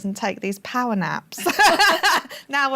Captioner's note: laughter